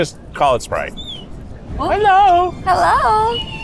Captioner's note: bird chirps; bird chirps